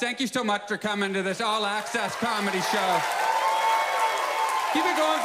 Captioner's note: audience cheers